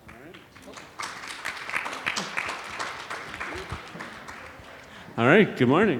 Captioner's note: audience applauding